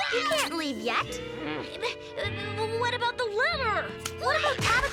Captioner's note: stammers